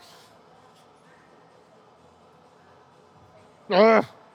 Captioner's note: grunting